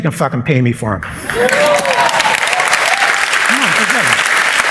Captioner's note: applause and cheers